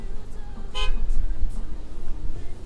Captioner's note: honk